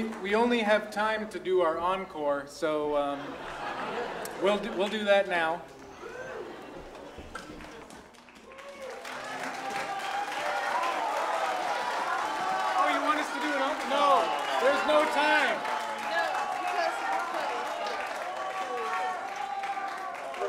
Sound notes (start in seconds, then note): 5.8 audience laughing; 8.4 audience applauding; 15.8 audience cheering and applauding